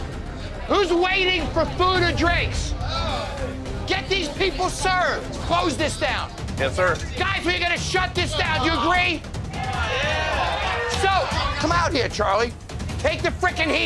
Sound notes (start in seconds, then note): 9.2 shouting